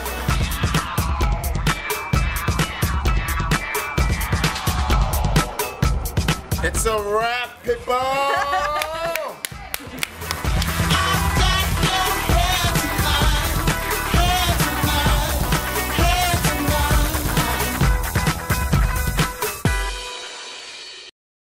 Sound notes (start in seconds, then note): 0.2 upbeat electronic dance music; 7.9 loud cheering; 11.2 upbeat electronic dance music